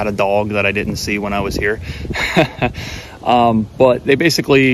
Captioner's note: laughs